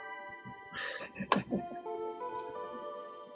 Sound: chuckles

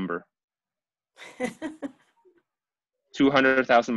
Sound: laughs

